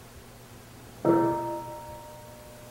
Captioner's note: bell rings